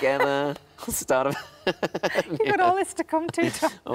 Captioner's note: both laughing